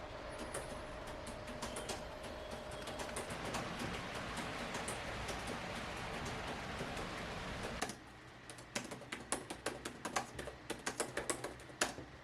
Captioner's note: cosy typing sounds